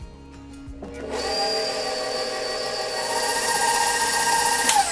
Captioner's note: mixer burrs